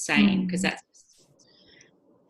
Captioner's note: microphone cutting out